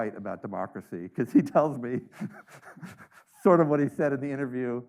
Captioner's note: laughs